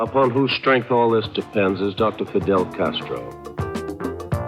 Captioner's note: archival news audio